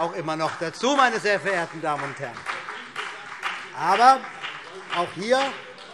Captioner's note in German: Vereinzelter Beifall CDU und BÜNDNIS 90/DIE GRÜNEN